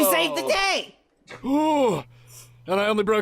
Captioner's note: groans in pain